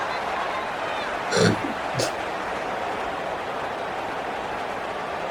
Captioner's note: crowd Noises